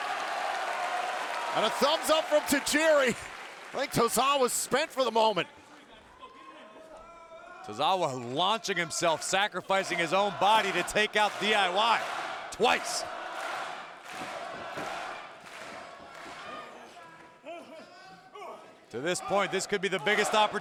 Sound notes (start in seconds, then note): 0.0 audience cheering; 13.9 audience chanting; 13.9 audience clapping